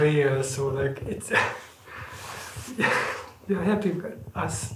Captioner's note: laughs